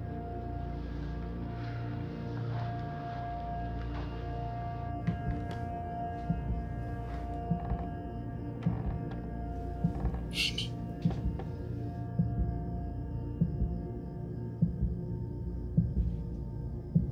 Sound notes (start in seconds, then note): 9.9 whispering